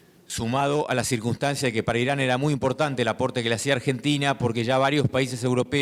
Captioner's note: speaking in foreign language